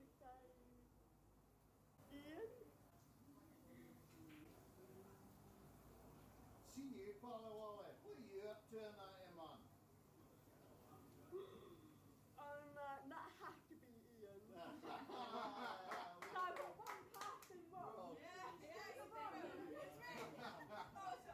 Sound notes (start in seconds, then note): 5.7 very low voice; 14.6 laughing